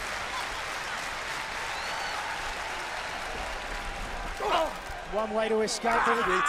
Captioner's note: crowd cheering